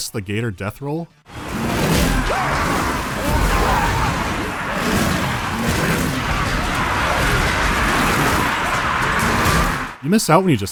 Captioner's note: sounds of hectic battle